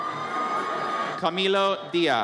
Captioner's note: audience cheers